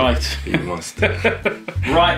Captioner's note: both laughing